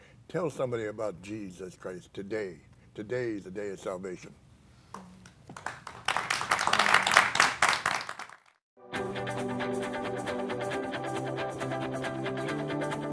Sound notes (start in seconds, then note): 5.5 applause; 9.0 inspirational acoustic music